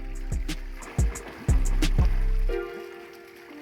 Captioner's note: water rushing